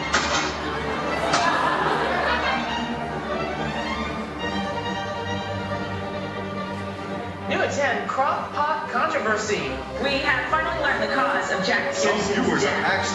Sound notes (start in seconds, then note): 0.7 laughing